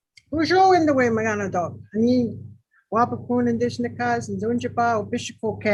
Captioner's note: speaking in foreign language